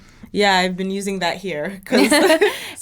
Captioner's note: both laughing